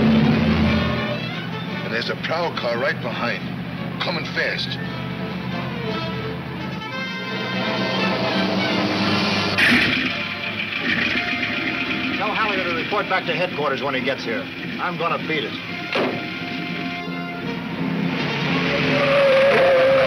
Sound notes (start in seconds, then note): 7.9 engine rumbling; 15.8 dramatic music